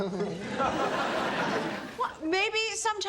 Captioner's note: audience laughs; chuckles